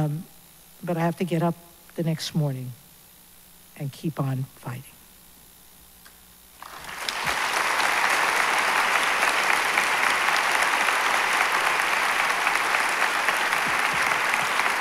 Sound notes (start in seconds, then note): 6.6 applause